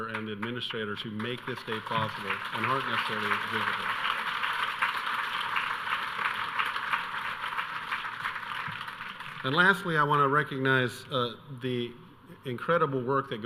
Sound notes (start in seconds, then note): 4.5 audience clapping